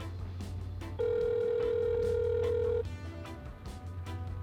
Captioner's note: phone calling